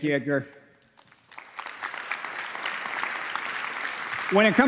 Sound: applause

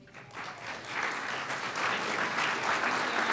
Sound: applause

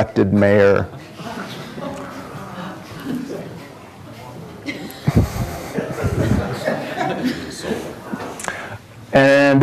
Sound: audience chatter and laughter

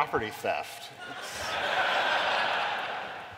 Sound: laughter

